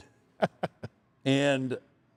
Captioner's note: chuckles